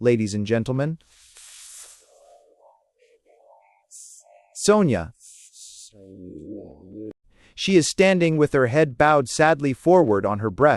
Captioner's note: he laughs